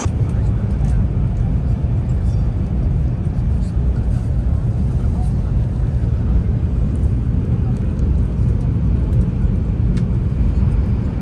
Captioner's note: high-speed train